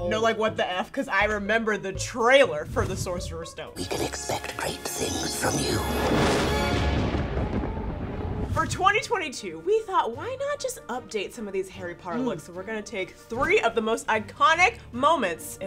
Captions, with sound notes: - No I want the F cause I remember the trailer for the Sorcerer Stone... - [Ghostly voice] We can expect great things from you. (air whooshing) (thunder rumbling) - For 2022, we thought why not just update some of these Harry Potter looks. We're gonna take three of the most iconic moments